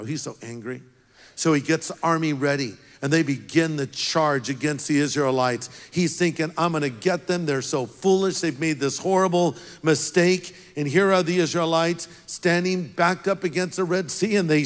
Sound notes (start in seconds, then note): none